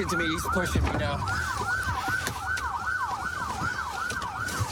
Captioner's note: sirens blaring